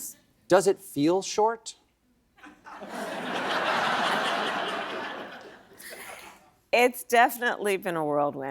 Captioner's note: laughter